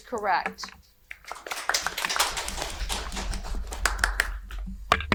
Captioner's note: audience applauding